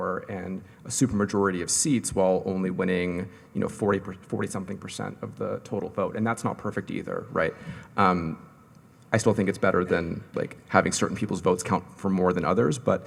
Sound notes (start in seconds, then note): none